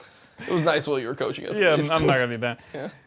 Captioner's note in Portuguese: risos